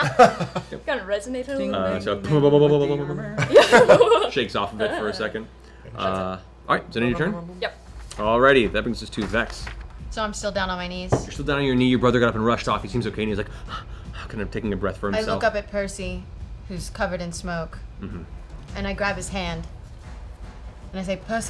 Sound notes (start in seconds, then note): 13.5 panting